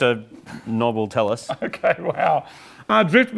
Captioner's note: laughs